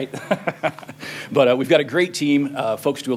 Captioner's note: laughter